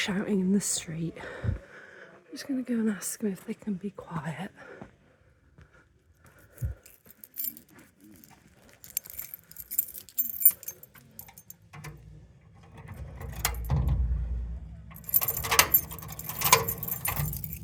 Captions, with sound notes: shouting in the street. Just going to go and ask them if they can be quiet. [keys jangling] [lock clunking]